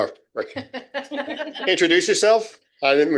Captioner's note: laughing